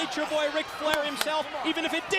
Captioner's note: crowd chatter